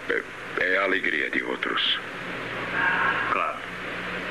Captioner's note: whispers